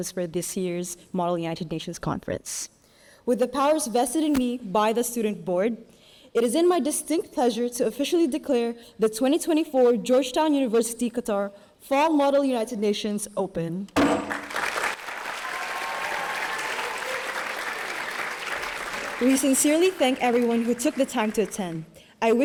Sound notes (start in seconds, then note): 14.0 gavel slams; 14.2 audience cheering and applauding